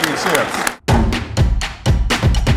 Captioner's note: applause